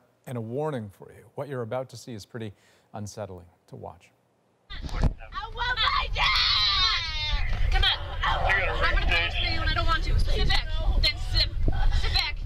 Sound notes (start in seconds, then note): 7.3 screaming